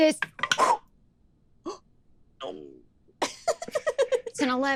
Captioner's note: giggles